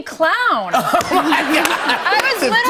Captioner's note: laughing